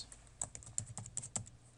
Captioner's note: typing